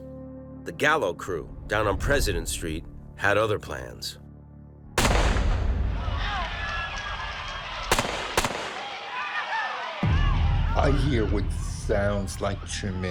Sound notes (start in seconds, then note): 5.0 gunshot; 6.0 screaming; 7.8 gunshots